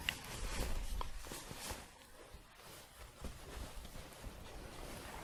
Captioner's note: shuffling